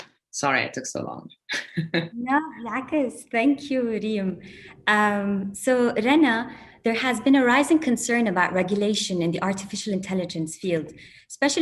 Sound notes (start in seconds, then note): 2.8 non-english speech